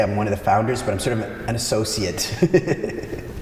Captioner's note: laughs